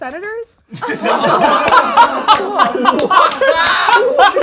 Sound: laughing

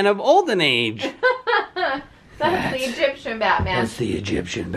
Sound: laughing

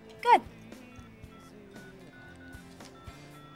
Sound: dialing

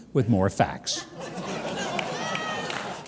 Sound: audience laughing

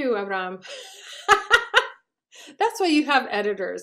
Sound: laughs

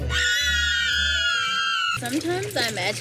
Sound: screams

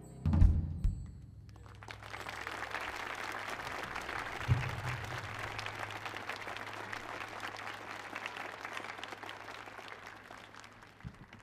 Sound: applause

